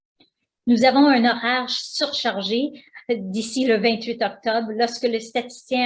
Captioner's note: speaking foreign language